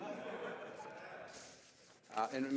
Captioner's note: speaking French